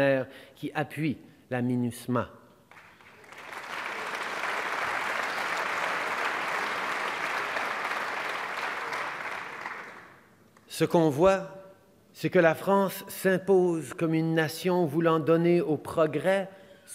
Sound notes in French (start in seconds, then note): 2.6 Applaudissements